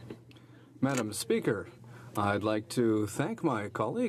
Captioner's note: speaking French